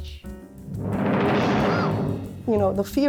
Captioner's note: thunderstorm rumbling